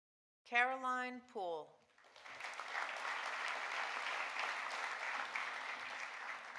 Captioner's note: audience applauding